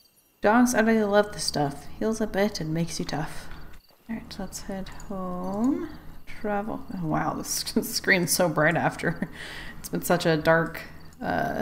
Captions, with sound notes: "Dogs utterly love this stuff, heals a bit and makes you tough" All right let's head home. Travel... oh wow! This screen's so bright after *laughs* It's been such a dark uh